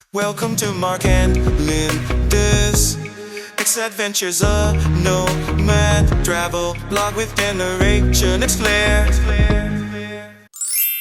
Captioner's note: bling